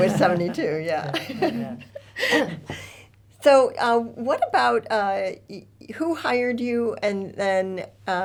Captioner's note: laughs